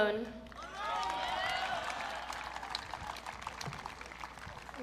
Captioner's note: audience cheering